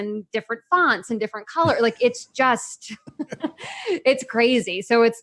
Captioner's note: laughs